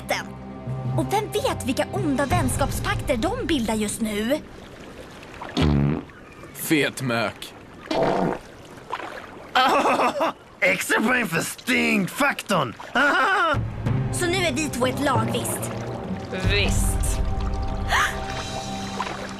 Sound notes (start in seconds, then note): 5.5 farts; 7.9 farts; 12.9 laughs; 17.9 gasps